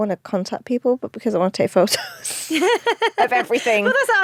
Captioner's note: laughs